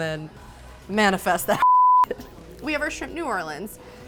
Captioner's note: beep